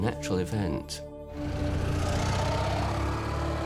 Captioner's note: motorcycle engine